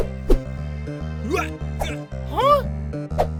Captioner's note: nickel grunts